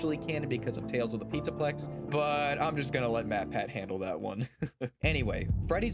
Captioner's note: laugh